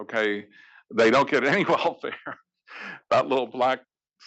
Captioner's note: laugh